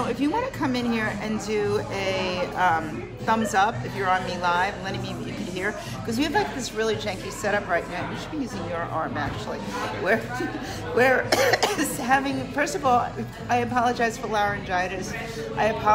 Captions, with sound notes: So, if you want to come in here and do a thumbs up, if you're on me Live, letting me know if you can hear. 'Cause we have this really janky set up right now. We should be using your arm, actually. [coughs] First of all, I apologize for laryngitis.